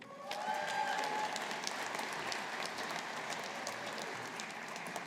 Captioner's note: audience applauding